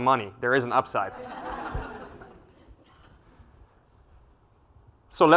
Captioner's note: laugh